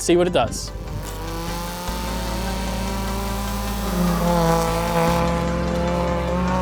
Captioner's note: dynamic music; engine buzzing